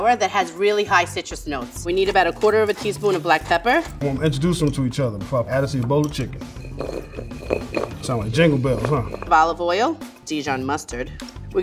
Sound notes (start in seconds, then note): 6.7 chicken clinking